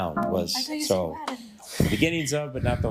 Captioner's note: chuckles